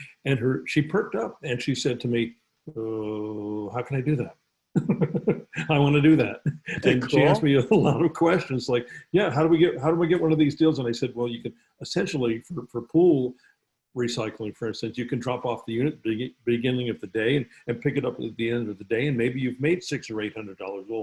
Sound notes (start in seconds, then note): 4.8 laughs